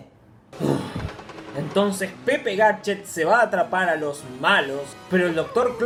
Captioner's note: sigh